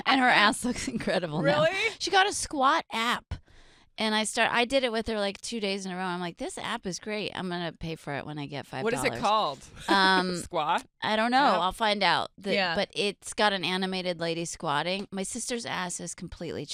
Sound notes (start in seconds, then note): 9.8 laughing